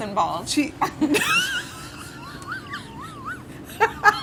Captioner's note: laughter